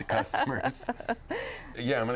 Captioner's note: laughing